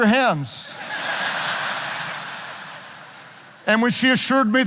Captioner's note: audience laughing